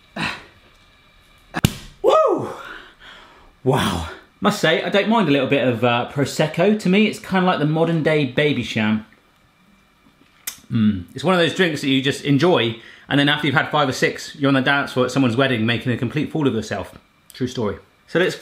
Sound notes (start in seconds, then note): 0.2 grunts; 1.5 cork popping; 10.4 tongue clicks